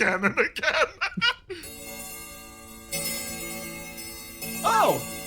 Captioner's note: clock Chimes